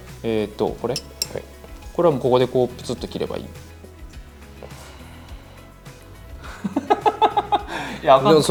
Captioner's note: sigh